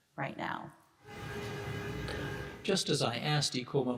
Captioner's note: car horns honking